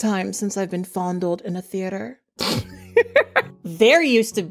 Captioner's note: laughing